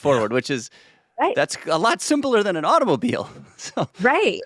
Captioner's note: chuckles